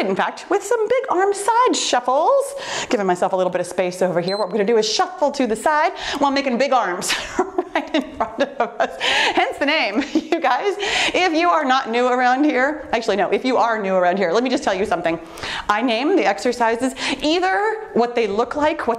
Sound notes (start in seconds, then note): 4.2 timer beeps; 7.1 laughs